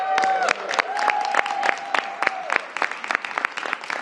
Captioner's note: applause